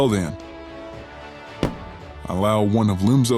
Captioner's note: sound of boots on floor as stand for attention